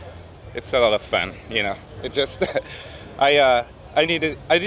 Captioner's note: laughs